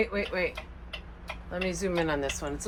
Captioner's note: turn single clicking